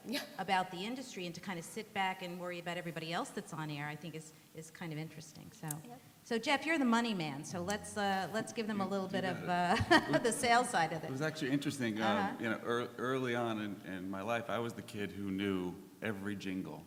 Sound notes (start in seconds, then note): 9.6 laughter